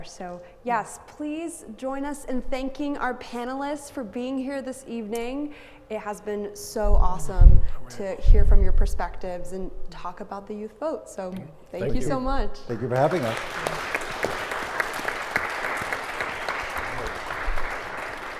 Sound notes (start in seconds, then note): 14.1 all applauding